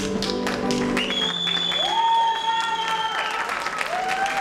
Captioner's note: applause